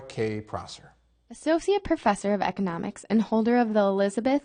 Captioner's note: voiceover